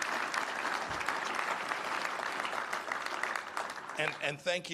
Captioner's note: applause